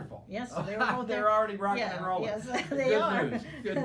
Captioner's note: laughing